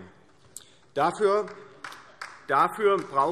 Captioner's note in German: Beifall DIE LINKE